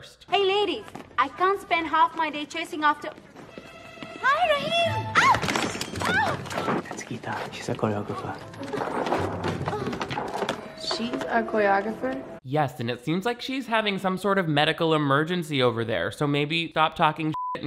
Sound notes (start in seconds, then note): 5.0 yelps; 5.1 objects clattering; 8.6 Gita grunting; 17.3 beep